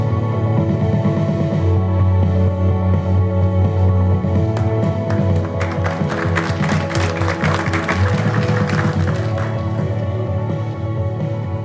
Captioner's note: applause